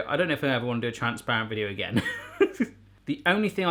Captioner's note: laughs